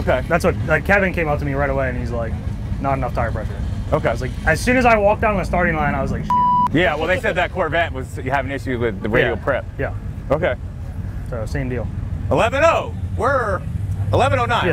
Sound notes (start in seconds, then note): 6.2 beep